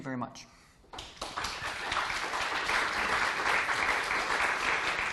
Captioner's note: applause